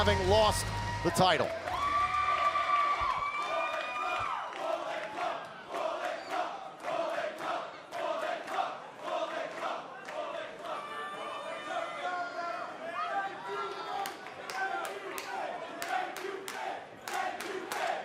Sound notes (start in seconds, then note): 3.0 cheers and applause; 4.0 fans chanting